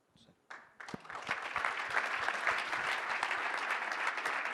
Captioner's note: audience applauding